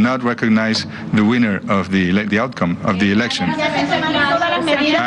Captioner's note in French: plusieurs voix